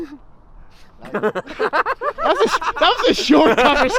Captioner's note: they all laugh